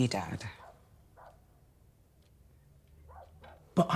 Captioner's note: dog barking